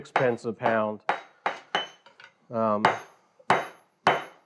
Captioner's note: metal clangs